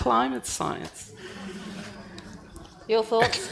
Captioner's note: audience murmuring